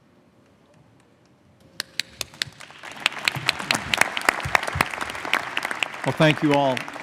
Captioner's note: applause